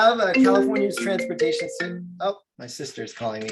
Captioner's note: cell phone rings